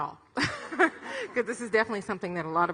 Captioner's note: laughs